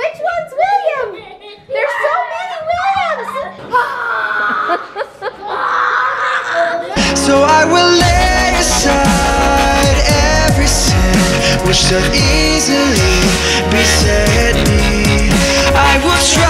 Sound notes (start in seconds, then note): 3.0 laughing; 3.9 yelling